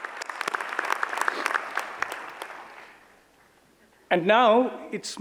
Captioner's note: audience applauds